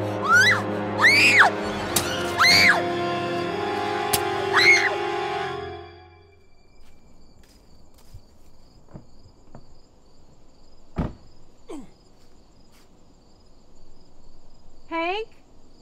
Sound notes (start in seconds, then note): 0.9 Bridget screaming; 10.9 car door shuts; 11.7 man grunts